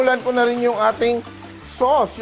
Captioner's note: sizzle